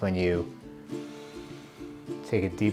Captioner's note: inhale